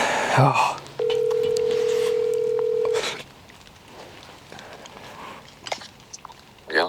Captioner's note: phone ringing